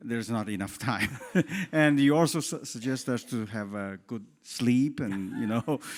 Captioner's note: laugh